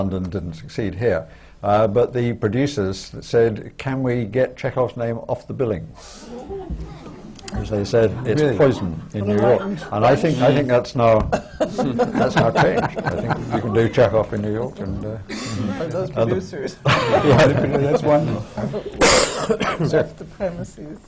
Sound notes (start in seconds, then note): 7.4 laughter